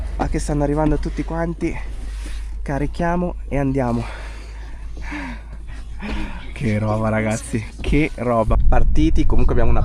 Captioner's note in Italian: sospiri